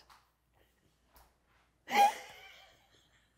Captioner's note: laughter